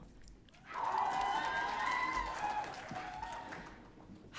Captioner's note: audience cheering